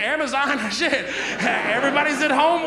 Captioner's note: audience laughs